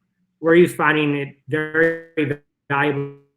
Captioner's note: sound distorts